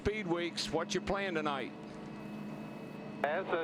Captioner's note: radio